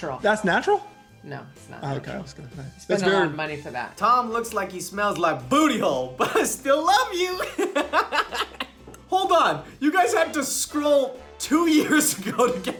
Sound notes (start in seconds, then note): 7.2 laughs